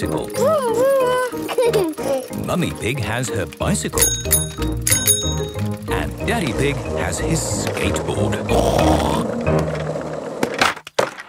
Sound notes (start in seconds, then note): 0.4 giggles; 3.9 bicycle bell dinging; 8.0 snorts